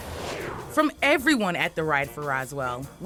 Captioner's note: graphics whooshing